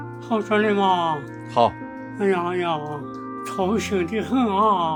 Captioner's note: dialect